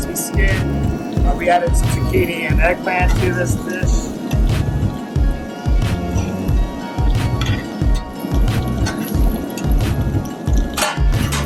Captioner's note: fire roaring; food sizzling; tongs click